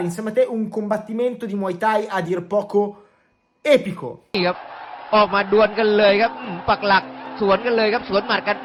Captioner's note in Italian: Applauso